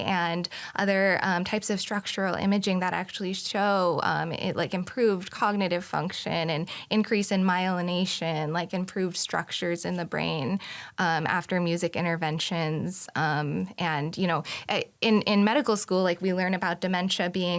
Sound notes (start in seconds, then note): none